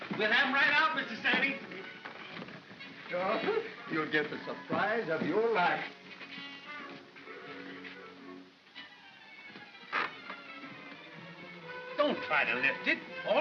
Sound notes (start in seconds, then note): 8.6 creaking sound